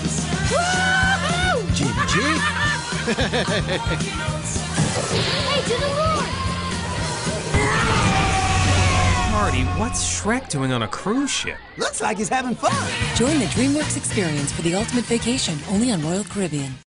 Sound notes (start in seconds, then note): 1.8 laughing